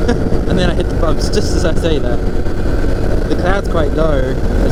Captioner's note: laughs